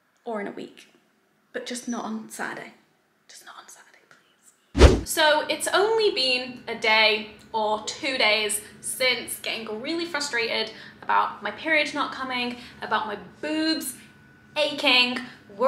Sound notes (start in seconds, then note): 4.7 swooshing